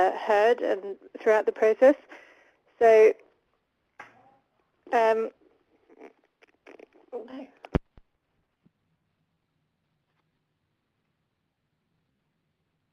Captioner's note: lost audio